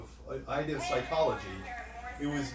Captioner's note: Electronic voices